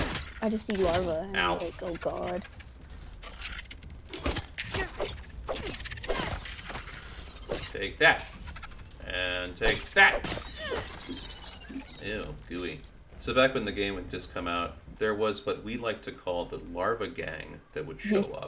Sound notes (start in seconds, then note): 4.6 larva dying noises